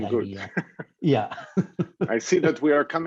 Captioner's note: laughs